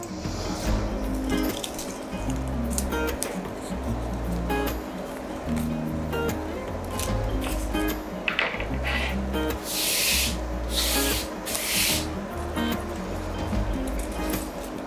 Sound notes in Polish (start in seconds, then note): 8.3 szelest papieru